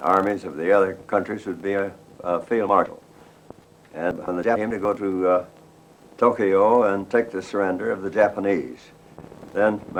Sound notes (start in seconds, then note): 3.2 audio distortion